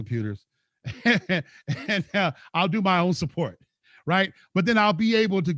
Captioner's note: laughs